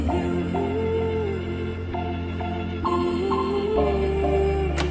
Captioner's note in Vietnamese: ngân nga